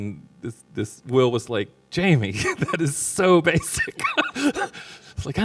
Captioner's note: laughs